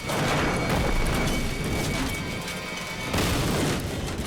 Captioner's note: structure thudding